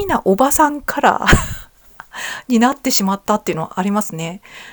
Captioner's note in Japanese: 笑い